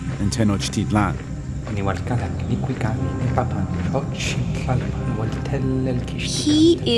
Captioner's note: non-English language spoken